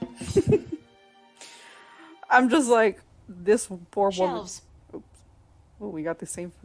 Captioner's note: laugh